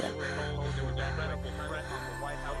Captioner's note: bells